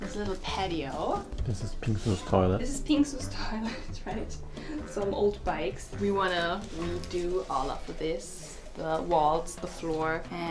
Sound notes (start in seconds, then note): 3.5 chuckles